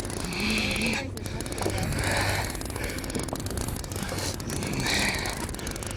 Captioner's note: grunting